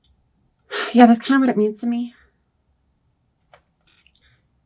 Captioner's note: sighs